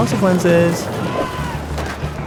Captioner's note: shouting